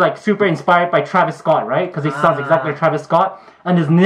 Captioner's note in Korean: 아~